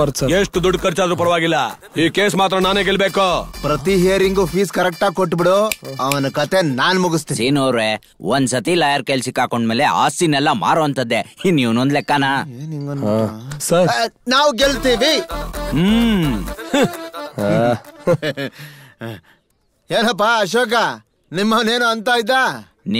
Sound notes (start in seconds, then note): 5.6 snaps finger